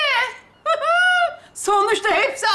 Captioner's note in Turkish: Gülme sesi